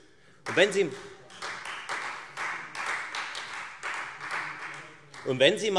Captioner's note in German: Beifall Freie Demokraten